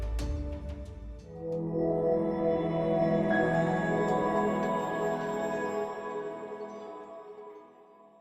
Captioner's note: swelling tone, high-pitched bell